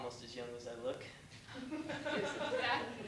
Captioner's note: laughter